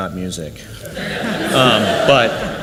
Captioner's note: audience laughs